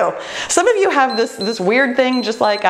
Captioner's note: timer beeps